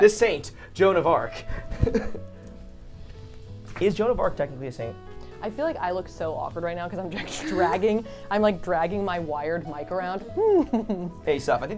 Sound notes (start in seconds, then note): 1.6 laughs